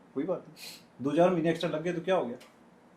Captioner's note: sound made with the nose